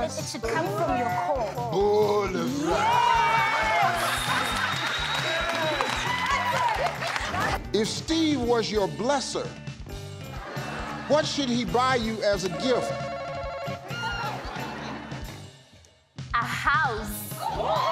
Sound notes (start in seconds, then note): 2.8 audience applauding; 12.6 buzzer ringing